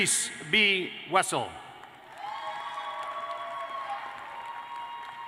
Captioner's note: applause